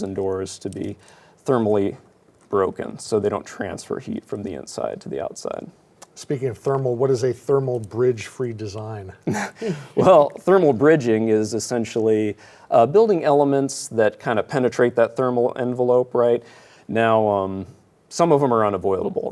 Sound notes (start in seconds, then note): 9.2 chuckles